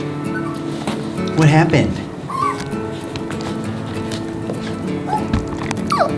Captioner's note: giggles whining; giggles whining